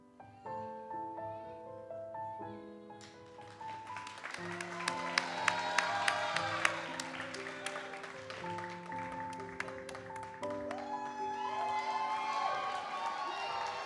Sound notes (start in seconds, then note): 3.7 audience cheers and applauds